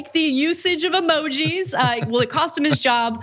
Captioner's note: laugh